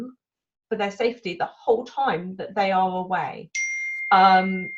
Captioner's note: computer pings